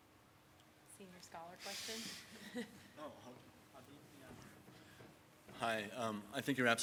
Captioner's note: laughs